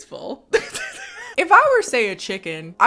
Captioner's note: laughs